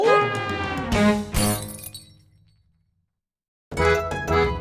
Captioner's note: glass shatters